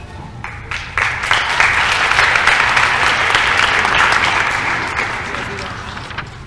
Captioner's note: applause